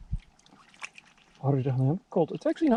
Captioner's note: water splashing